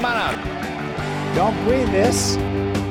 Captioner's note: audience cheering